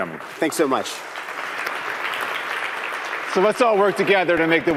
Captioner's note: applause